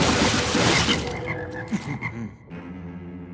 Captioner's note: splat; ribbit